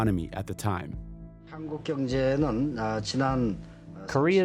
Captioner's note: soundbite of archived recording